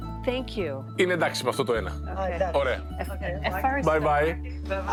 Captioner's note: speaking in Greek